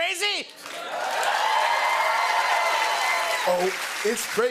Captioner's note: cheers and applause